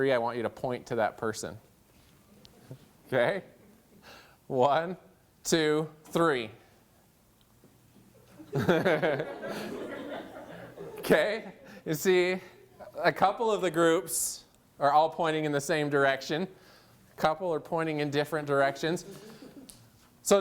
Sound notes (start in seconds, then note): 8.3 laughter